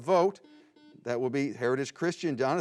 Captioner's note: buzzing